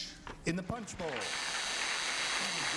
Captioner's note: buzzing